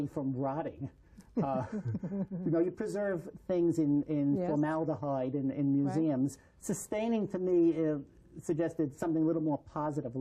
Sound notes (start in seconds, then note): 1.4 laughter